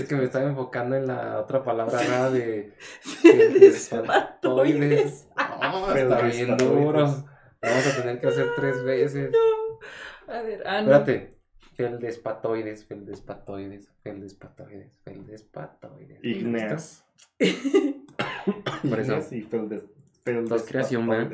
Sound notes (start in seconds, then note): 3.0 laughing while sounding out "feldspars" in Spanish; 10.0 laughs & jokes; 18.1 coughing